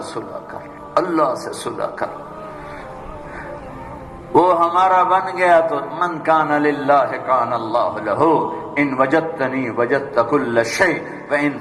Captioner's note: Arabic